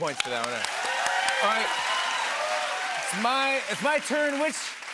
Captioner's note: cheers and applause